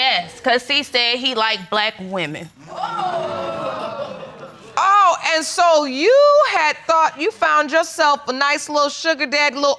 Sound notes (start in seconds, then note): 2.6 audience exclaiming